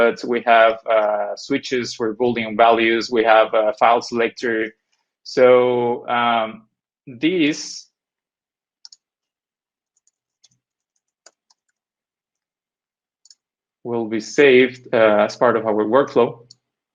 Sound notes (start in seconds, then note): 9.1 keyboard clanking